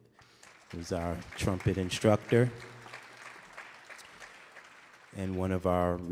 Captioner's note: audience applauding